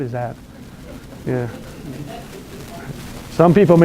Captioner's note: laughter